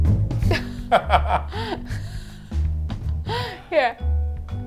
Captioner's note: laughing